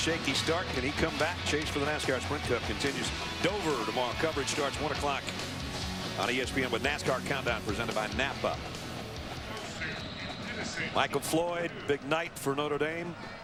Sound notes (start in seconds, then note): 9.5 crowd shouting, car alarm blaring; 11.7 crowd